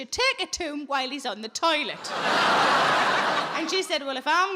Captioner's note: audience laughing